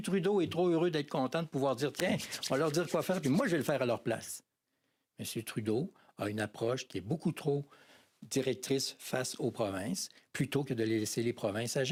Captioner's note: speaking french